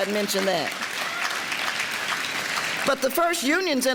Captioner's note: audience applause